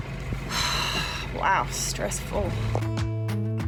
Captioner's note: sigh